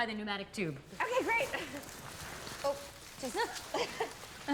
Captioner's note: laughs